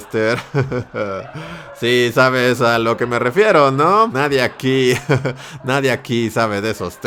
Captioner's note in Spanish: risa insufrible